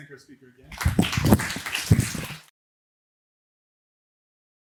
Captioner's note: applause